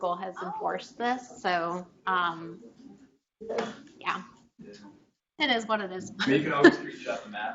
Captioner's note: chuckles